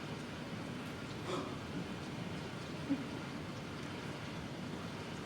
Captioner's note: child gasps